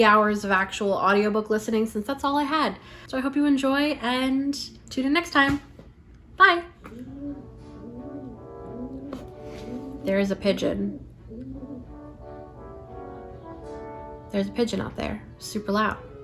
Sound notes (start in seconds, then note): 9.6 pigeon cooing